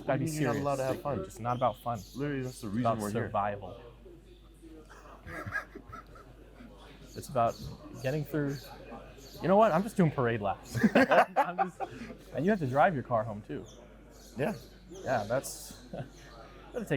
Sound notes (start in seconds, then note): 5.0 chuckling; 10.7 all laughing